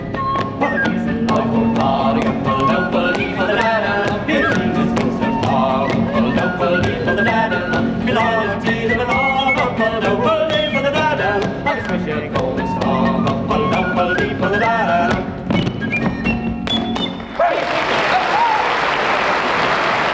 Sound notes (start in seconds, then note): 0.3 singing in foreign language; 15.0 feet tapping rhythmically; 17.3 audience applauds